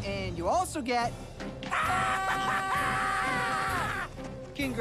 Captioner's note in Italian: urla